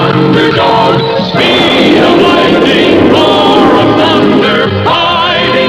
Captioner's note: lighting Strikes